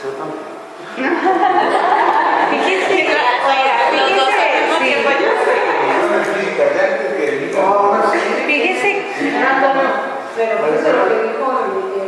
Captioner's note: laughter